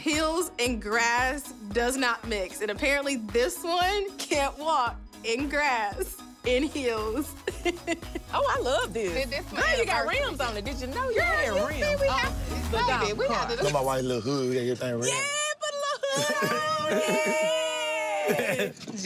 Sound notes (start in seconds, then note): 7.4 chuckle